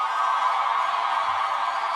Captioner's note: cheers and applause